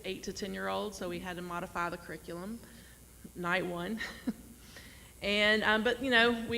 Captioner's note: laughs